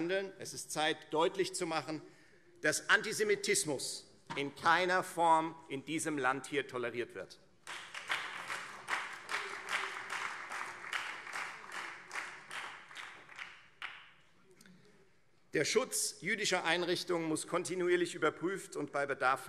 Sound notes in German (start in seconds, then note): 10.1 Beifall Freie Demokraten und BÜNDNIS 90/DIE GRÜNEN